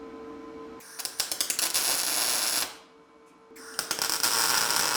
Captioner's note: metal sizzling